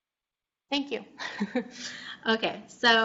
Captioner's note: chuckles